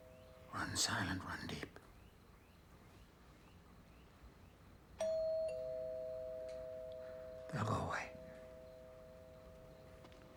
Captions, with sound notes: Run silent, run deep. [Doorbell rings] They'll go away.